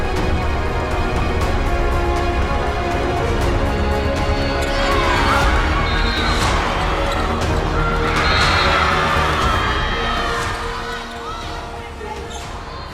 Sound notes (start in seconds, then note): 4.6 cheering